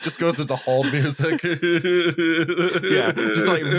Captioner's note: laughter